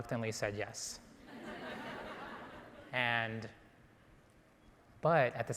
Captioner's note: audience laughing